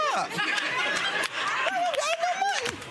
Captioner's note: audience laughing